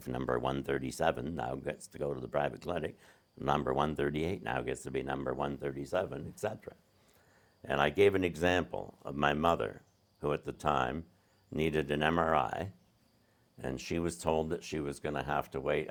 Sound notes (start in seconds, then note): none